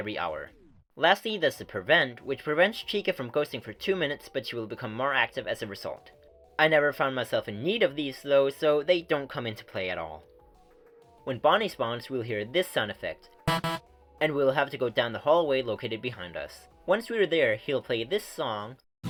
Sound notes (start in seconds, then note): 13.5 beep-beep